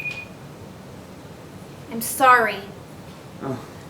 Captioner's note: phone rings